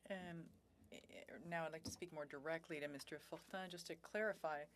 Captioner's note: speaking French